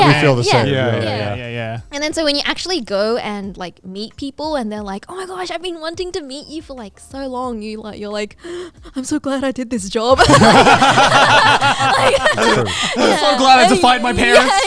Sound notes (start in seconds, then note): 10.1 all laughing